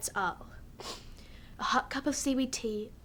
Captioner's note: sniffs